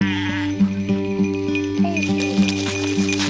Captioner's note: music, sheep sounds